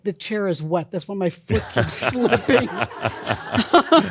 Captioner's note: laughter